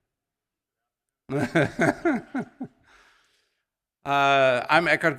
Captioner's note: laughs